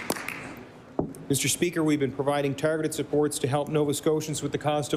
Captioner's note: applause